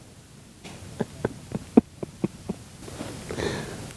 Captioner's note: laughing